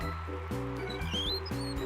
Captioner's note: wheels squeaking